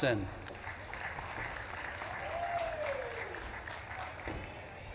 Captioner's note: audience claps and cheers